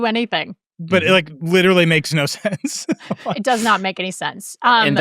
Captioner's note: laughs